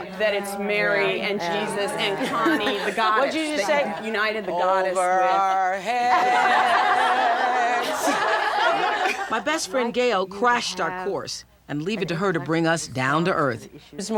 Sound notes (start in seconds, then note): 5.1 singing; 6.0 laughter